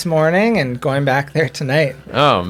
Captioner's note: chuckles